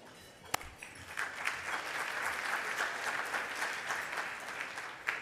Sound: audience applauding

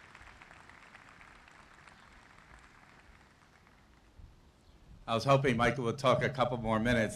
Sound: applause

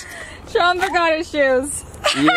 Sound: laughing

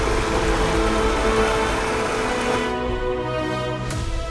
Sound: water gushing

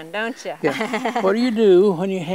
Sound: laughs

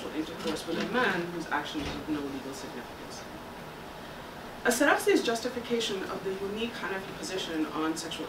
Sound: Arabic

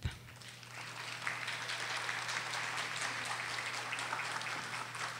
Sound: audience applauding

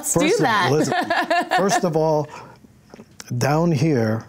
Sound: laughs

